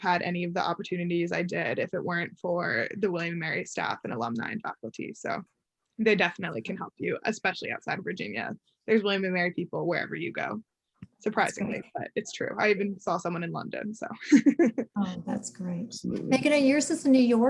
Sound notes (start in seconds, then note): 14.4 laughs